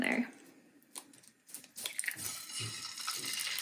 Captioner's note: egg cracking; sizzling